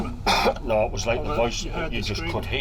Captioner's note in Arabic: السعال